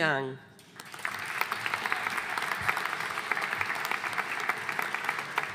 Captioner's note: audience applauding